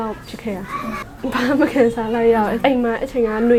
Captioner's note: laughs